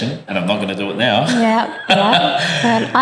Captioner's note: laugh